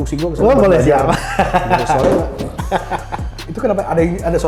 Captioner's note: laugh